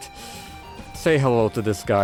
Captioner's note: inhale